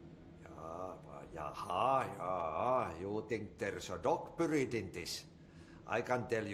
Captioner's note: in finnish